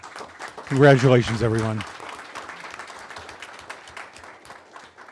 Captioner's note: applause